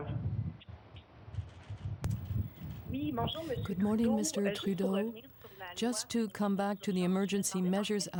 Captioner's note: speaking french